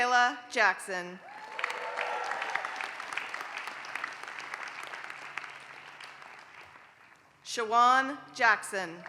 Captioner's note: applause; applause